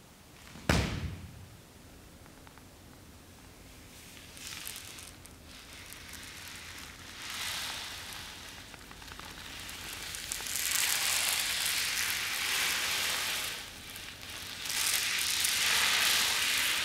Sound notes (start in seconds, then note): 4.0 skittles scattering across the floor